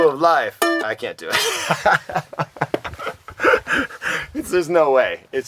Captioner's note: laughter